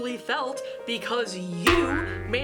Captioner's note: boing